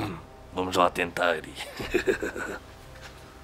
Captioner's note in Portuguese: Risos